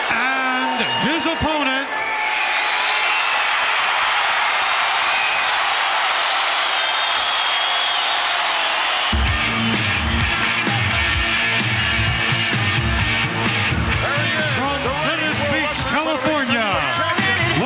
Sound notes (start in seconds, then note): 2.3 audience cheering; 9.2 upbeat music